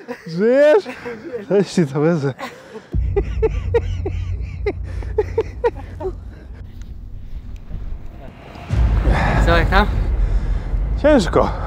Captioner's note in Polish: śmiech